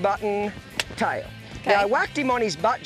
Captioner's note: stick cracking